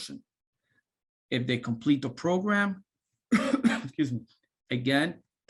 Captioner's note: coughing